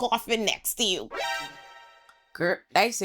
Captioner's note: chime